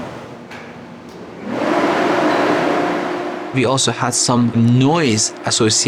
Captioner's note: loud fan turning on